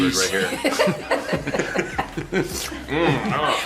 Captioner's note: laughing